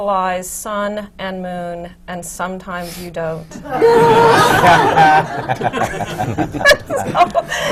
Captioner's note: laughter